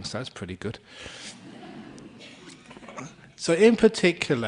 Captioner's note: laughter